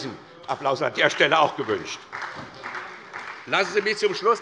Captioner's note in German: Beifall SPD